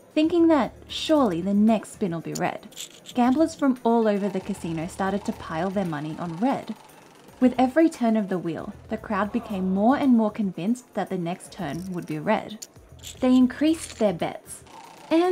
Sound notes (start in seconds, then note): 6.6 wheel clicking; 11.6 chips rattling